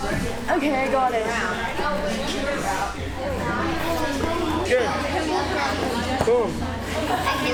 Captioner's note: people chattering